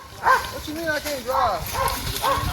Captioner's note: dogs barking